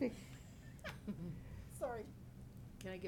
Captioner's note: laughing